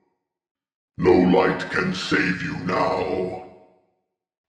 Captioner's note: deep, Rumbly Voice